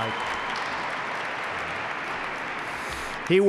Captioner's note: applause